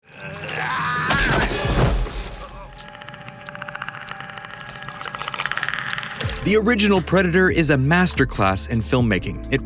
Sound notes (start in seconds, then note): 0.0 groaning; 2.8 clicking